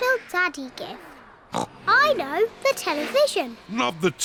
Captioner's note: oinks